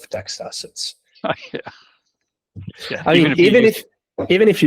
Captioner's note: chuckles